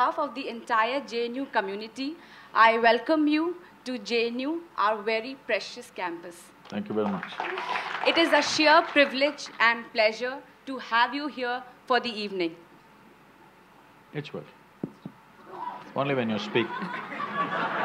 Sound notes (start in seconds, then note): 6.6 applause; 16.6 laughter